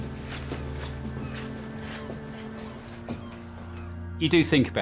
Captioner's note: calm music; seagulls crying